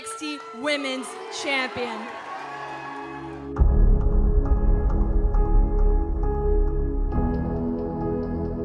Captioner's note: cheers and boos